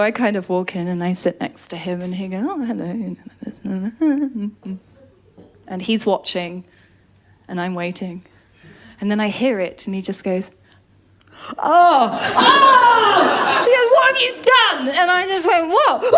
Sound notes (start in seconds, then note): 4.0 hums